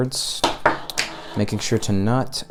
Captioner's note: sound of cable falling onto desk